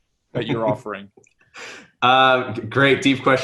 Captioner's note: giggling